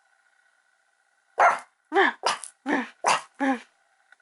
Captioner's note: barks; imitates bark